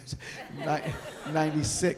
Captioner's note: audience laughing